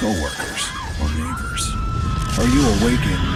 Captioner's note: screaming